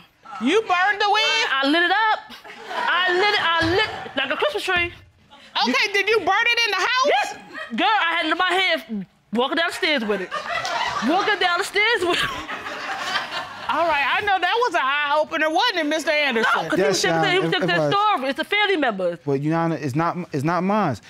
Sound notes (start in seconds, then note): 2.4 audience laughing; 9.6 audience laughing; 10.0 chuckles